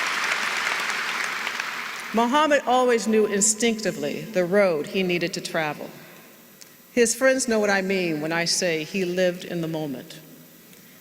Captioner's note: applause